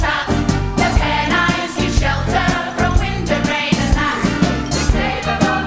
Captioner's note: brrr